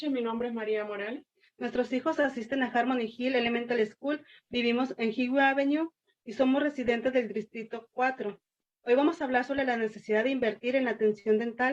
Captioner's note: spanish